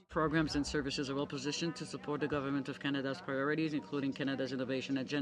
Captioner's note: speaking french